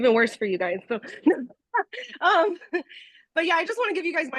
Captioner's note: laughing